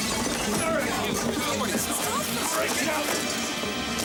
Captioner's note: people chattering